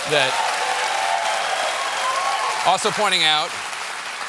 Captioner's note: applause